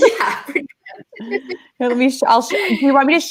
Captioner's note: laughing